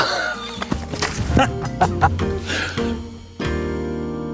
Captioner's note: laughing; groaning